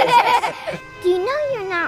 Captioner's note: laughing